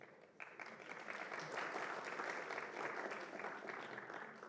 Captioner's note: applause